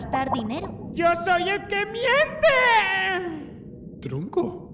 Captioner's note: bizarre raspy voice